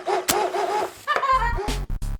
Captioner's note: laughs